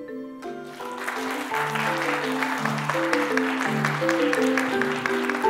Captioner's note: applause